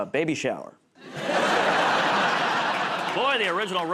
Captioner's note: laughter